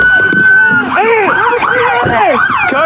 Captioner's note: screaeaming